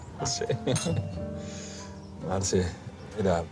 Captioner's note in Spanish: Sonido al chocar las copas